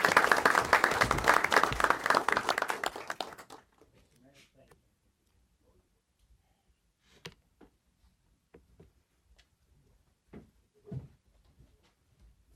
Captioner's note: applause